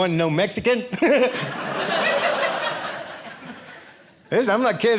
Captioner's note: audience laughing